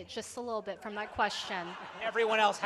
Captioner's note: laughter